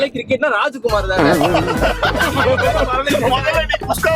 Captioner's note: laughing